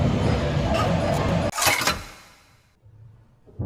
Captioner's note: servo creak